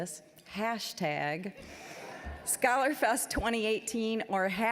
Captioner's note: audience laughing